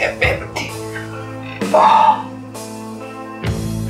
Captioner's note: sighs painfully